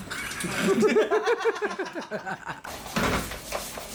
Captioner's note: laughter